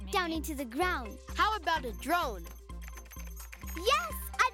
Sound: keyboard clicking

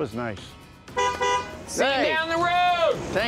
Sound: car honks

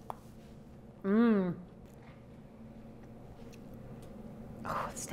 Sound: humming

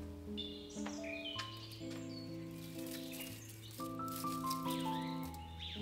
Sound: flowers rustle

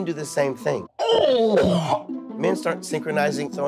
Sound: both retch

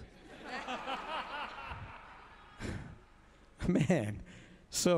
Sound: audience laughs

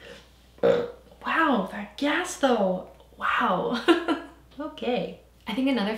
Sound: burps; laughs

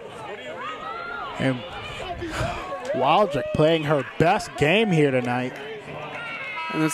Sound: sighs

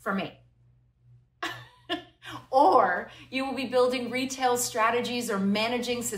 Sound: laughter

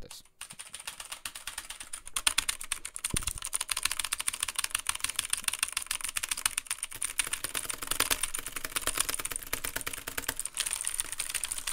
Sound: even intenser keyboard pressing

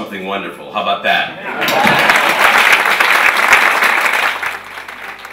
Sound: applauding

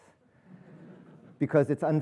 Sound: audience chuckling

